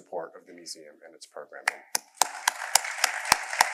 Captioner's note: applause